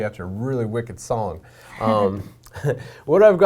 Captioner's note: laughing